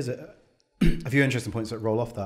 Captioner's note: clears throat